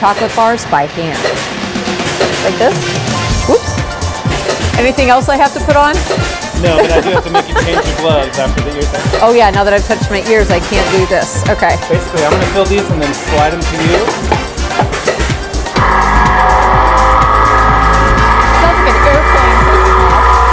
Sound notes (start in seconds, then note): 19.5 machine whirring